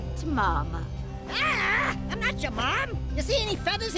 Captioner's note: groans